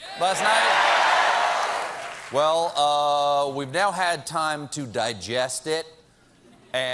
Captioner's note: applause